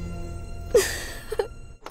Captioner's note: Laughs